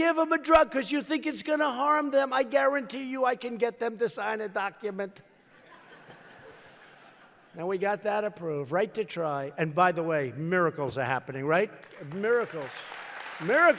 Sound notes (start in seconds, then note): 5.4 laughter; 11.6 applause